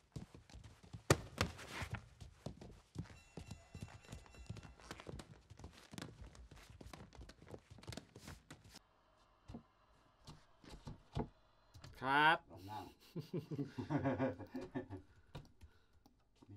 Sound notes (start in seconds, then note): 3.0 bell rings; 12.5 laughs